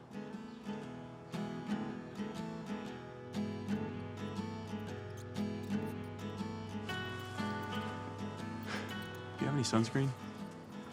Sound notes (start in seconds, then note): 0.1 gentle upbeat music; 5.5 mouse snuffling